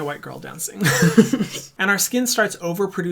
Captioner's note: laughs